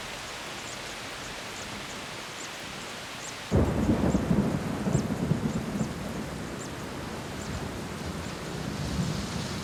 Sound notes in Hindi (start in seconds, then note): 3.6 बारिश हो रही है